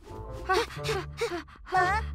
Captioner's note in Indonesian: Pinkfong, Hogi terengah